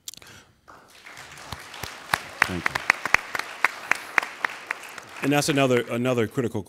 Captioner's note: applauding